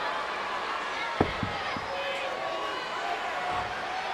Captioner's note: crowd chattering